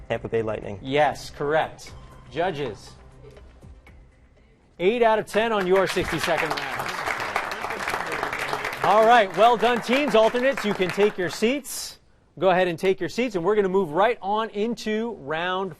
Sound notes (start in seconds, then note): 6.8 applause